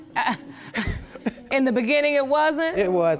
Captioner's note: chuckling